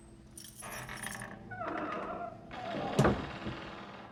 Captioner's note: creaking